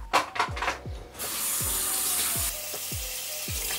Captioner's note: runs water